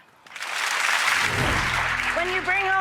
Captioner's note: applause